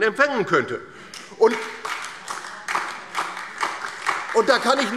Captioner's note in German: Beifall DIE LINKE und vereinzelt SPD